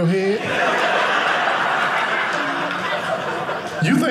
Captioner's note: audience laughing